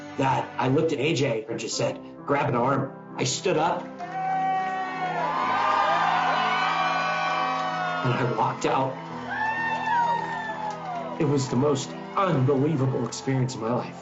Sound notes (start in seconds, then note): 4.7 cheering and applauding; 9.9 cheering and applauding